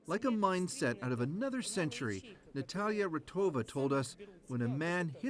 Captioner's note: speaking russian